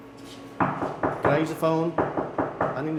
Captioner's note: knocking